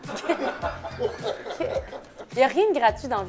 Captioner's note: laughs